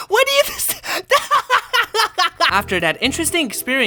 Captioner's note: uncontrollable laughter